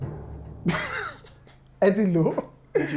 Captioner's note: laughs